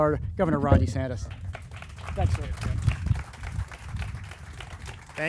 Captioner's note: crowd applauding